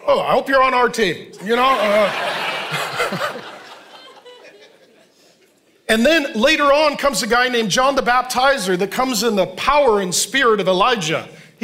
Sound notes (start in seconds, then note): 1.3 congregation laughing